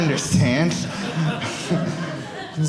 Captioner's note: audience laughing